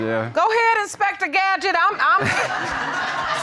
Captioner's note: audience laughing